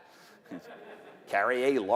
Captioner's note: laughter